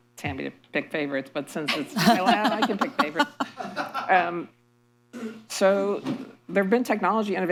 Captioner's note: laughter